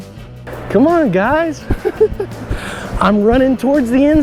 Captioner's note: laughs